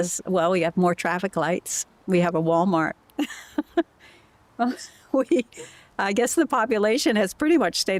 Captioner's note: laughter